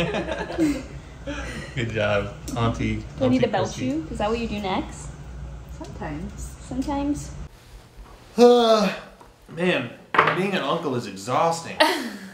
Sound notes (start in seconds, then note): 0.0 laughing; 8.4 yawning; 11.8 laughing